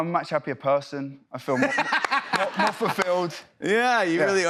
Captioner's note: laughs